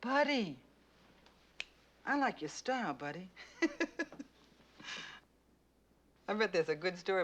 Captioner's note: laughing